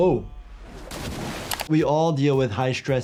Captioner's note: water splashing